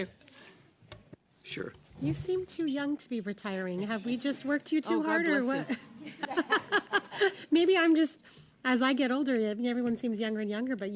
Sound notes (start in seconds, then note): 3.5 laughter